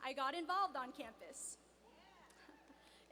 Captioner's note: cheers